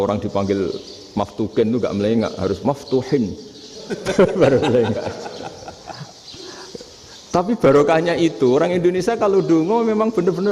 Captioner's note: laughs